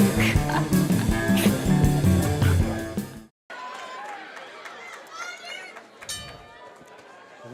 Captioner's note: laughs